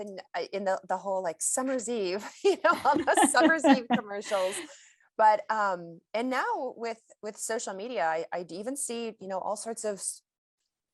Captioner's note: chuckles